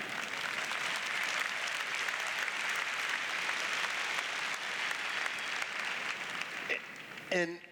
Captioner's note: clapping